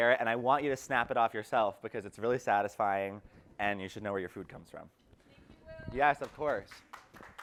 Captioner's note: claps